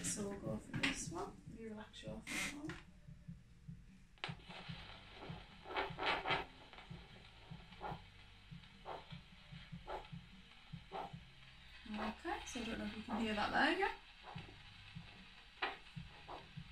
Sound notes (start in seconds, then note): 4.3 doppler machine crackling and pulsating